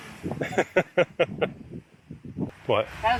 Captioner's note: laughing